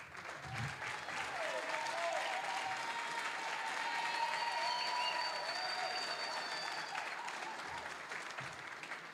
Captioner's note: applause, cheering; applause